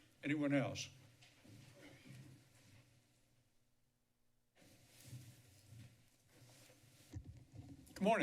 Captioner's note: silence